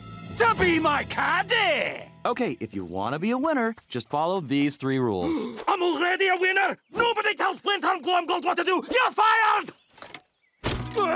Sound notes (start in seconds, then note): 5.2 gasps